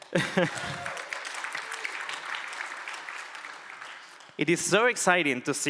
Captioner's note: applause